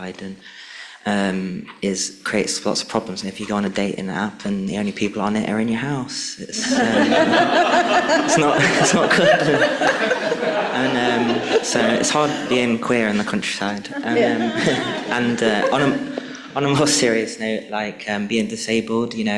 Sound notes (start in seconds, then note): 8.4 people laughing